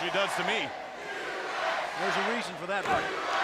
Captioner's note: crowd cheering